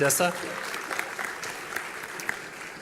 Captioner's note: applause